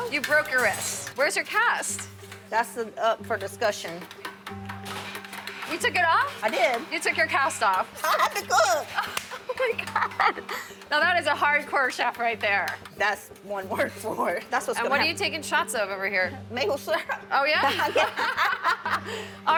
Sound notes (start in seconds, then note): 8.0 laughs; 17.6 both laughing